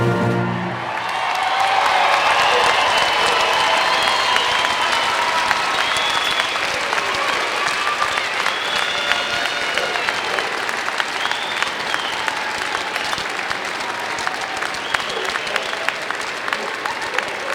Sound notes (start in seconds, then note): 3.0 applause